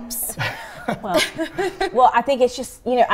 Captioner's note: chuckles